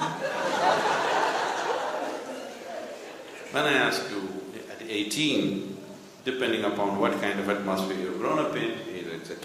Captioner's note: laughter